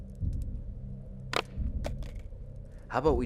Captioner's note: gun clacking